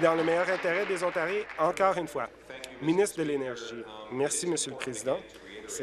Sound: applause

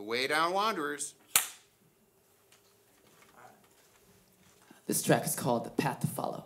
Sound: slate Claps

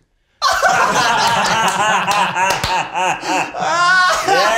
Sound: group laughs and claps; Zach laughs

